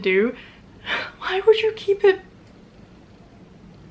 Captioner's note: confused sigh